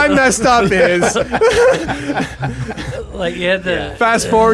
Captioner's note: all laugh